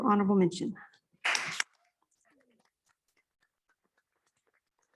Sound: applause

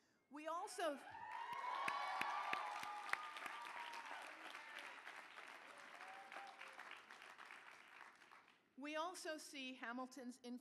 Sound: cheering

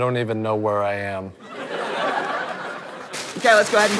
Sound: audience laughter

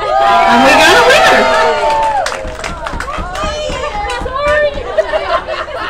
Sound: applause

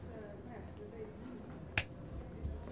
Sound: conversations and steps in the background; click

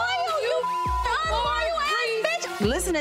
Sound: beep

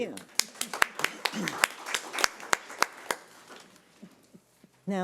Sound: audience applauding

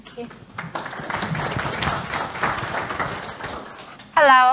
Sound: applauding

